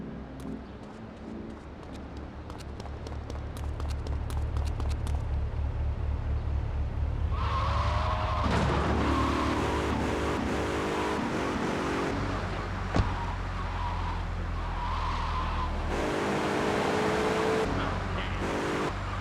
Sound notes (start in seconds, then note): 4.3 engine revving